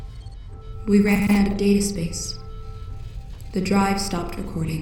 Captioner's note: voice glitching